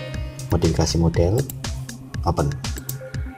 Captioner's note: click